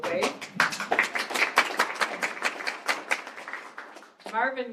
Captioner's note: applause